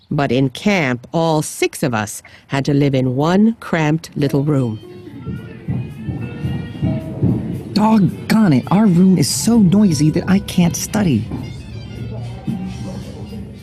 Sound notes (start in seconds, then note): 4.8 feet thumping; 5.5 faint music